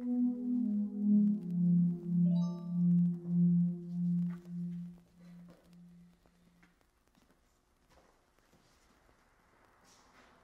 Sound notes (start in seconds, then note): 0.0 tense music; 2.7 phone dinging